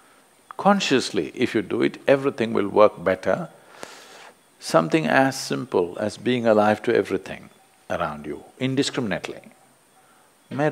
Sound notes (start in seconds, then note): none